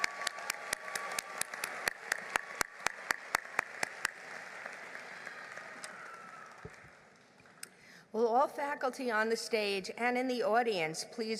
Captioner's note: applause